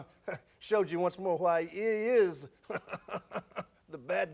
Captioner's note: chuckles